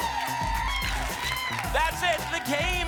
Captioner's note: tickets shuffling